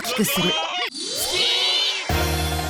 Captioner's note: cheering